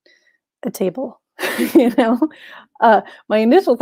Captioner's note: chuckles